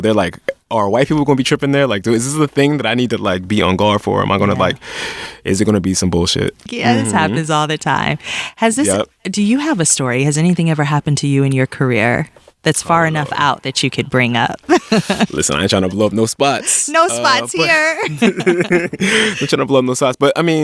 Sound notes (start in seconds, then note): 14.6 laughs; 18.2 both laughing